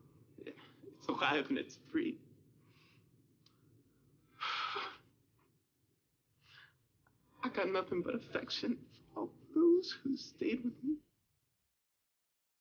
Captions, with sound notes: (exhales) Yeah, it's alive and it's free. (exhales) I got nothing for affection for all those who stayed with me.